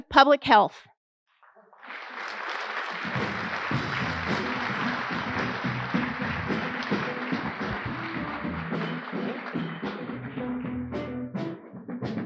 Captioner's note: applause